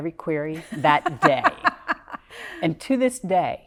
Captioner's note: laughing